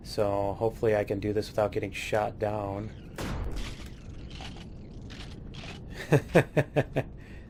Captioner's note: laughs